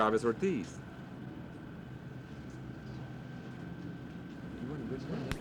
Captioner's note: crowd noise